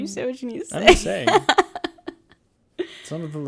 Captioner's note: laughs